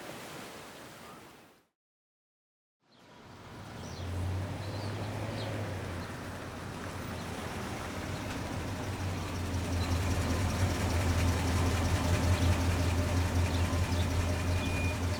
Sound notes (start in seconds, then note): 3.0 birds chirping; 7.9 car engine rumbling